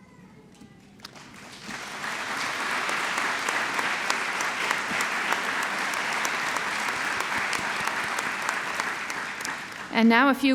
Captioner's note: applause